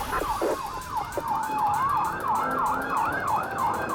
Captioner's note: sirens wailing